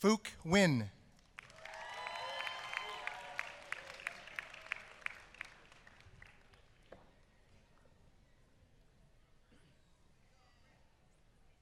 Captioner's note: applause